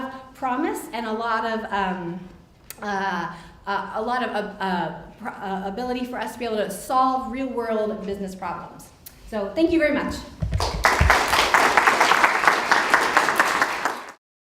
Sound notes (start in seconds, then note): 10.5 applause